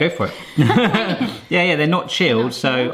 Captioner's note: both laughing